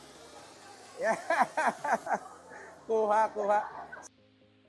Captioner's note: laughs